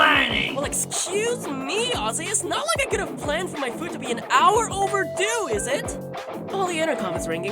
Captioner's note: intercom beeps